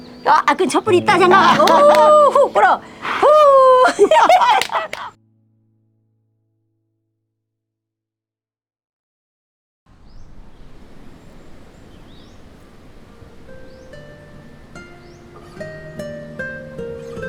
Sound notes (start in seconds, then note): 4.0 both laughing